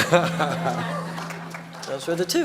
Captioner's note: light applause